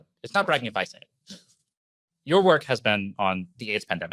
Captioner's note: laughs